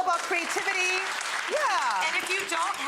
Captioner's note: audience applauding